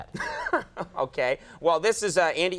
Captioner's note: laughs